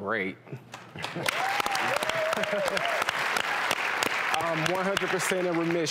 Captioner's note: audience applauds